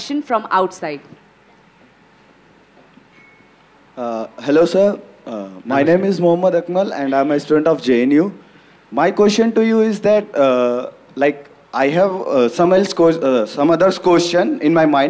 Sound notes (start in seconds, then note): none